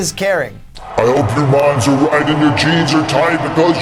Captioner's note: deep voice